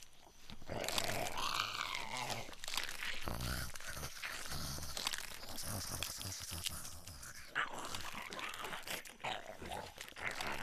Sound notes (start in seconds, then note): 0.7 growling